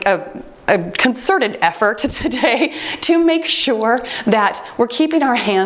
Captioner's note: timer beeps